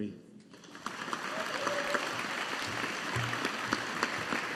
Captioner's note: audience applauding